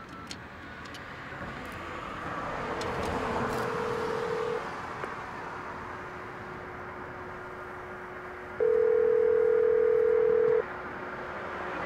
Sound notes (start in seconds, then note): 3.6 phone rings